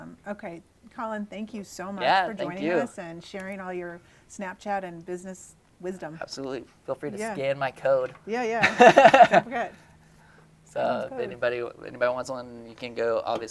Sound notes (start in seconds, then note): 8.4 laughing